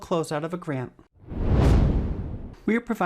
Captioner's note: swoosh